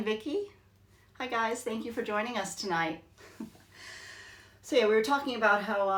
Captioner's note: chuckles